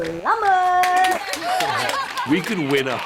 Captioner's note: clapping